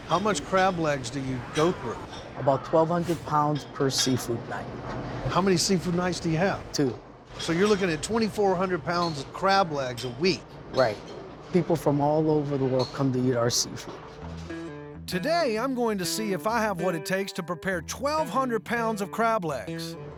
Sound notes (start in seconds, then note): none